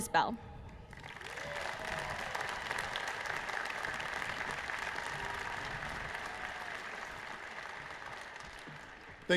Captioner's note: applause